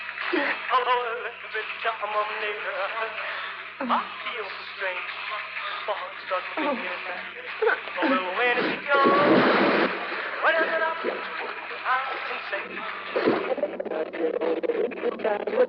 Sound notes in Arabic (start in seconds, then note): 8.4 رذاذ الماء